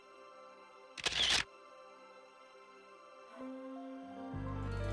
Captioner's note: camera clicks